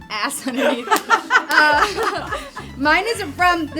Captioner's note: all laugh